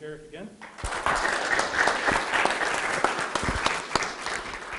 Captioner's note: audience clapping